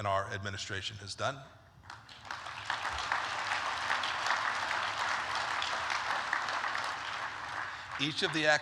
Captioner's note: applause